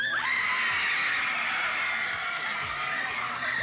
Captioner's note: crowd cheering